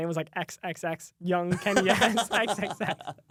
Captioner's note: laughs